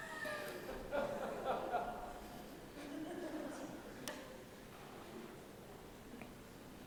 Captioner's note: laughter